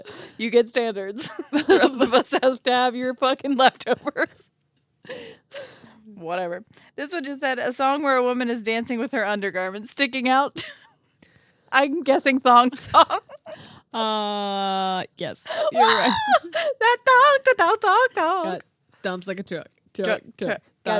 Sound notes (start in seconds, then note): 5.1 laughing; 15.5 squealing